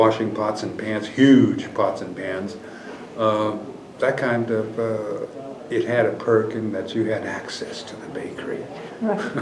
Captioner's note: laughter